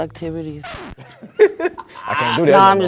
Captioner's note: laughing